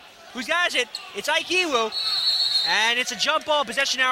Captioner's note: whistling